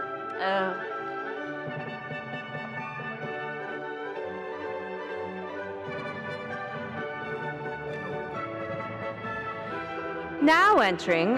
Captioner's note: ceremonious music; audience chattering